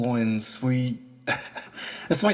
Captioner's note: chuckle